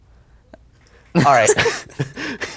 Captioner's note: laughter